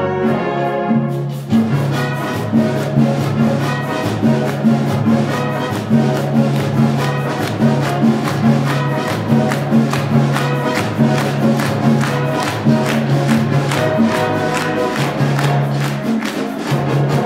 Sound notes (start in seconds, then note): 1.8 clapping; 1.8 upbeat Latin music; 17.0 upbeat Latin music